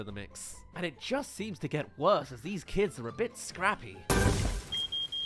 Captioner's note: crash* Oops